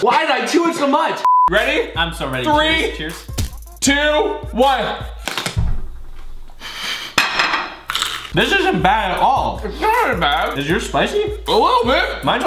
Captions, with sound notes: Why'd I chew it so much? (beep) Ready? - Not so ready. Cheers? - Three, two, one. (crunching) - This isn't bad at all. - It's sorta bad. - Is yours spicy? - A little bit.